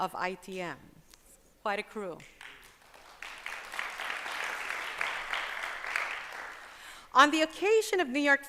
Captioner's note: applause